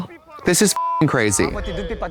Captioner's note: beep